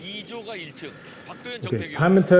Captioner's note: hiss